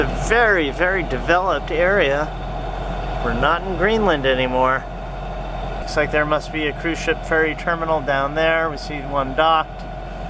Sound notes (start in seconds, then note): none